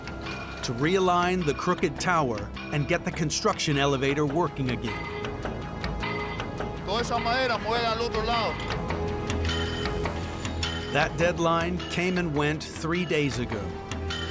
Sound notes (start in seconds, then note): 6.2 speaks spanish